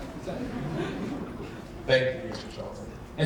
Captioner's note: audience laughing